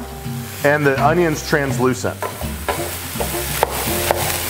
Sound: sizzling

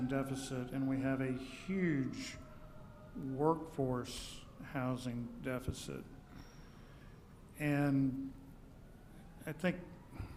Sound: sirens in the background

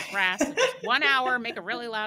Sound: laughing

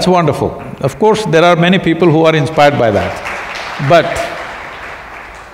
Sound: applause

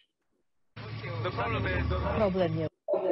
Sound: people speaking in foreign language; news anchor speaking in foreign language

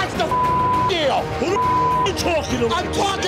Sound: beep

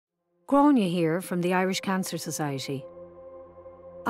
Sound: voiceover

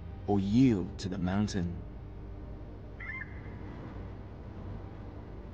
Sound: bird chirps

